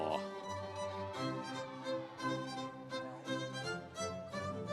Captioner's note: audience cheering